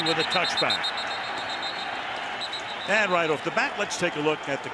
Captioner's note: whistle